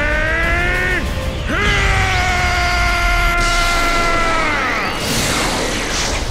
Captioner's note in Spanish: Gritos